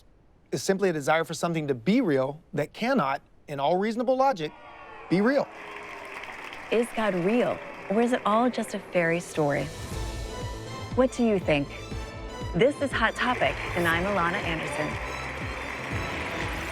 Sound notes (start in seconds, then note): 4.6 audience applauds; 9.6 upbeat music; 13.0 audience applauds